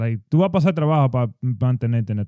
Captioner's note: speaking In Foreign Language